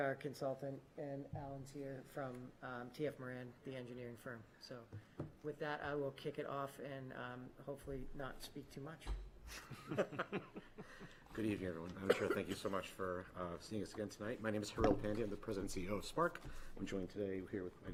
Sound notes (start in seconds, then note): 9.5 laughter